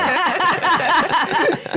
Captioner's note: laughter